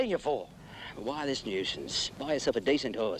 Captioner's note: sighs